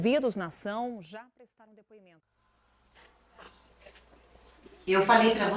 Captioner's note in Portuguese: Televisão ao fundo